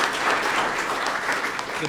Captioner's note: applause